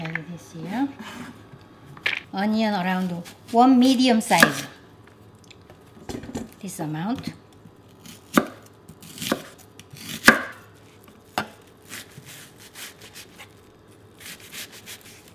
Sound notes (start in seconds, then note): 9.0 knife chopping